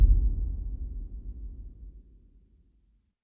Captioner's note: dramatic sound